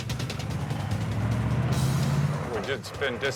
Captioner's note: engine rumbling